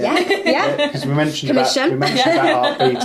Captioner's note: laughs